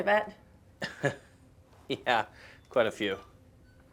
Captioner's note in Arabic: يضحك